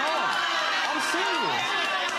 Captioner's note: audience chatter